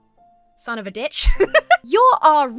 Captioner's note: laughs